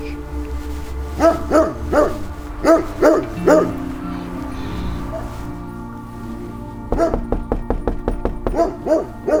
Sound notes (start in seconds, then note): 2.6 dog barking; 6.9 knocking